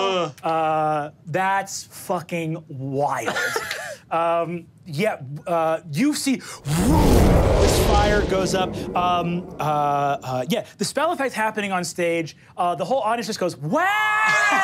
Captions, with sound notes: - That's fucking wide. Yeah, you see (air whooshing) this fire goes up. Yeah, the spell effects happening on stage. The whole audience goes, wow.